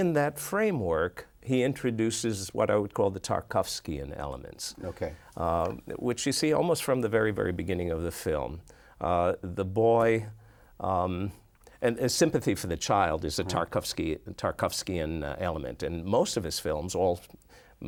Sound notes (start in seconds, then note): none